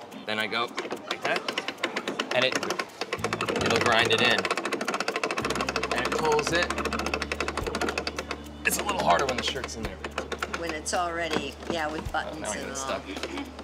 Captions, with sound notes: Then I go like that. And it'll grind it in. [ Grinding ] And it pulls it. It's a little harder when the shirt's in there. When it's already -- Yeah, with buttons.